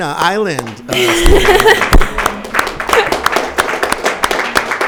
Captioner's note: audience applauding